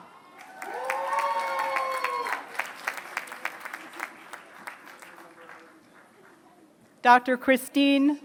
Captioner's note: applause